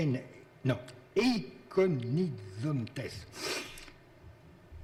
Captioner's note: speaking in foreign language